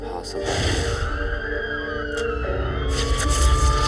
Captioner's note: sirens